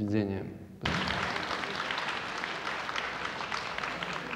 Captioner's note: audience applause